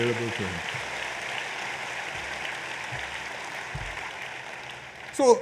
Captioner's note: applause